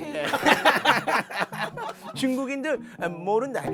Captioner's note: hahahaha~~